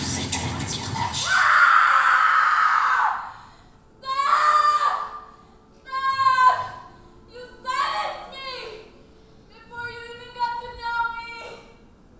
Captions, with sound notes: (dancer screaming) - Stop! Stop! You banished me before you even got to know me.